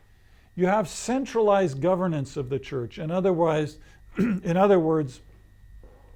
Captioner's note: clears throat